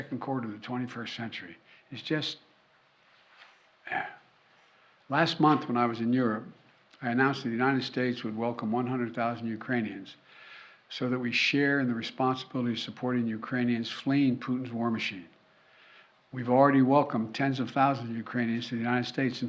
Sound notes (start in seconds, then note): 3.8 sighs